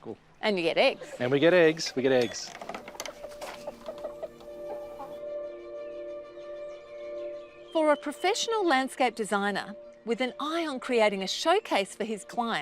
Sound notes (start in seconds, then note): 2.4 chickens cluck